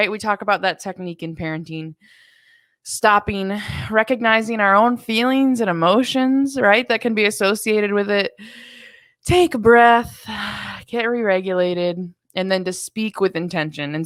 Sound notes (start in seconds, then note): 8.4 exhales sharply